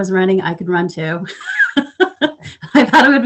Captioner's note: laughs